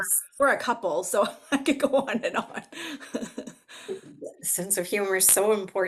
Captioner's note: chuckles